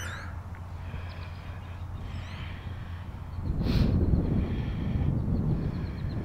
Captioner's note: blows out breath; takes deep breath